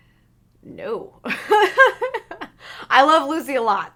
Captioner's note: laughs